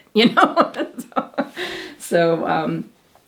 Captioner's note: mother laughing